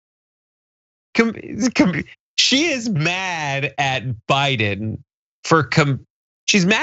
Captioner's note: laugh